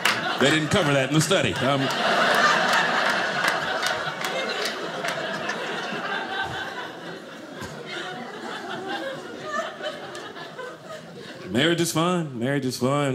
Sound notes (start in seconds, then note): 2.0 audience laughing